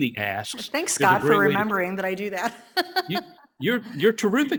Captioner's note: laughs